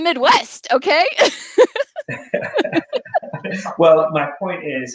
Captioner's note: laughing